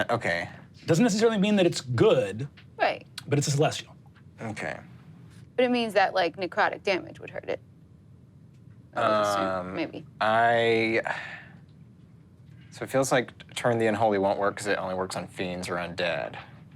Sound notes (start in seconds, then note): none